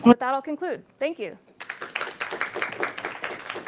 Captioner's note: applause